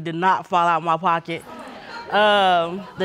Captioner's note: audience muttering